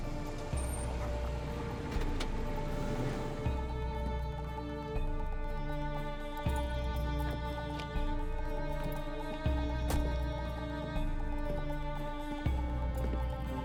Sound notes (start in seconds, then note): 0.0 brakes squeal; 3.1 engine shuts off